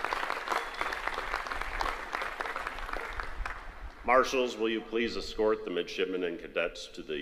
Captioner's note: applause